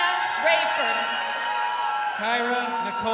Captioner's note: crowd cheering